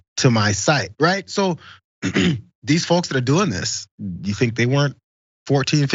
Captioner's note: cough